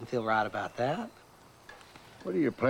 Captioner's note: birds twittering